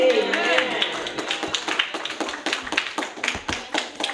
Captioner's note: cheering